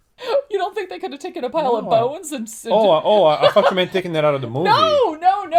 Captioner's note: laughs